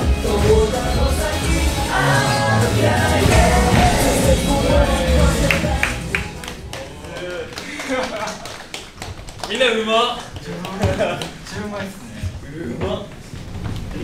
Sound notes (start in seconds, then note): 5.4 light clapping; 7.7 laughs; 10.8 laughs